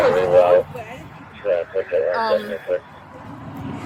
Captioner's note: radio chatter